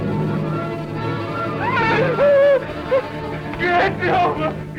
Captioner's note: loud scream